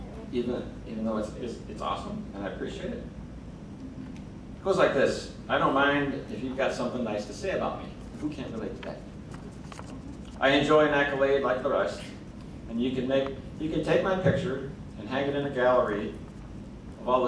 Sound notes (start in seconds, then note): none